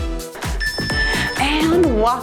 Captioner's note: timer beeps